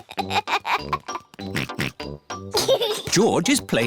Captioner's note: giggles; oinks